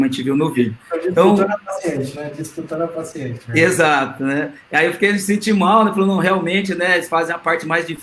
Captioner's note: multiple voices